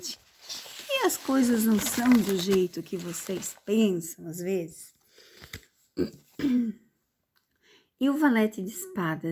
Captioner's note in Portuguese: limpando a garganta